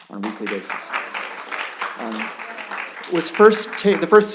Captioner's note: applause